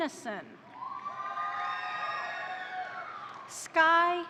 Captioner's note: crowd cheering; crowd applauding